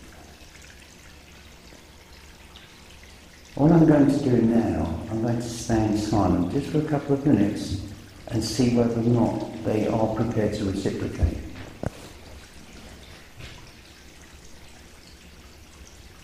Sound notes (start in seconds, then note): 0.2 water dripping; 12.9 water dripping